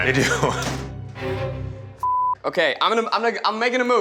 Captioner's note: beeps